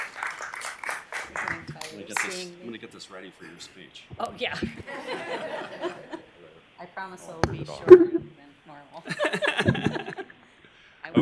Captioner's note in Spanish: aplausos